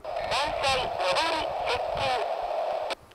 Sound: inbound train approaching

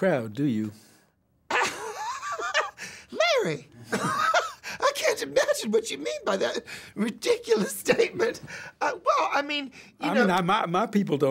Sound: laughs

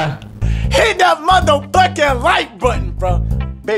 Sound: yelling

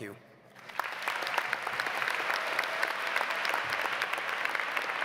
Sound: audience applauds

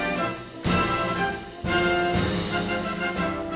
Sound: net rattles; playful music continues

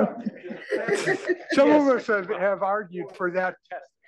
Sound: laugh

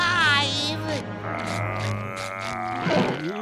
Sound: babbling

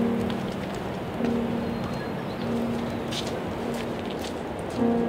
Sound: bird singing

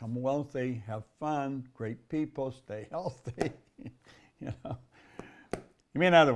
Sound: laughs

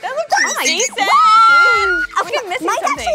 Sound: screaming

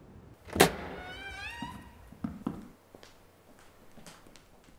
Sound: door squeals

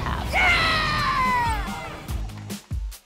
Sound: club members cheering; upbeat music

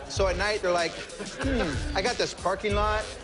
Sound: laughter

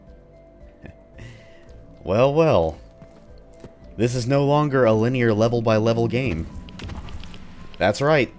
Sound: slight chuckle

